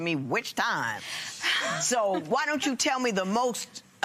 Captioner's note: laughs